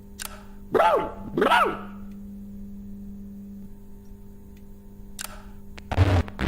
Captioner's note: dog barking